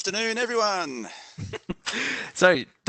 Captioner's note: chuckles